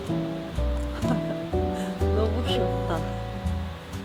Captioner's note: laughs